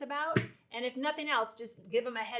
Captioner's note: hand slaps on counter